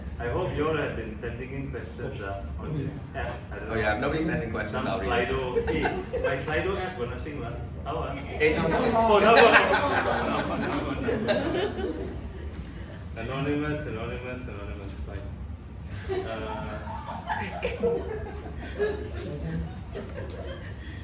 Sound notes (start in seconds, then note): 9.1 laughs; 15.9 audience laughs